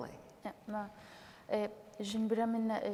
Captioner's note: speaking kurdish